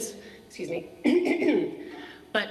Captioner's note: clears throat